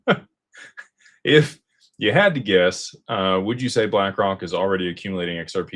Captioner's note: laughter